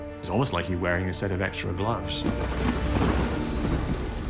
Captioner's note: thunder rolls